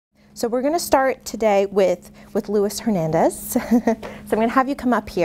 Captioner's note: laughs